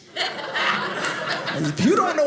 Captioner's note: audience laughing